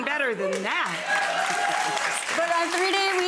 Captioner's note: audience applauding